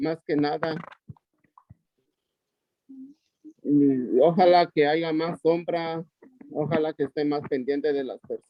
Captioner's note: audio distortion